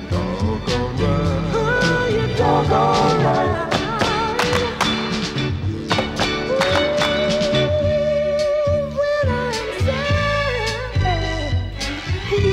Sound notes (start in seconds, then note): 4.3 clap